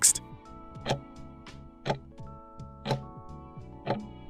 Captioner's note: timer ticking